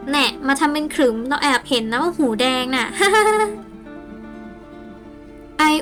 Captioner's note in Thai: หัวเราะ